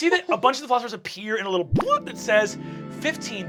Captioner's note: bubbling